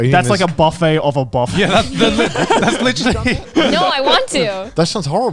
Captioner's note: all laughing